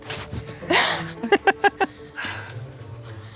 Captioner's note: both laugh